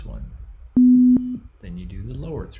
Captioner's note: low tone beeps